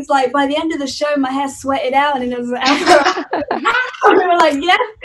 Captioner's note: laughter